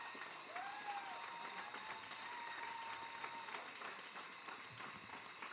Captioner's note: cheers and applause